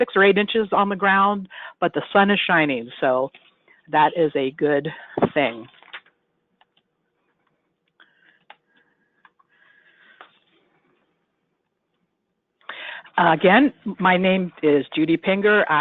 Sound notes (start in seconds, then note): 6.2 silence